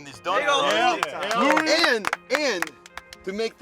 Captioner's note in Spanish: aplausos